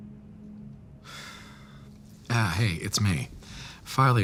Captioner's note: sighs